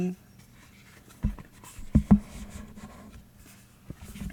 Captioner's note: opening tarot deck, bumping microphone